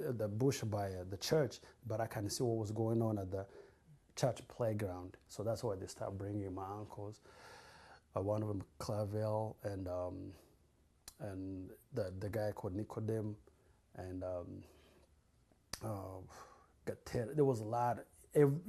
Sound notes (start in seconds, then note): 9.2 non-english; 12.9 non-english